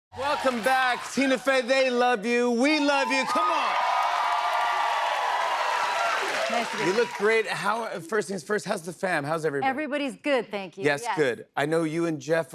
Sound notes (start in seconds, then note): 2.6 cheers and applause